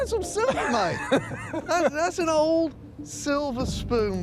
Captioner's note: laughs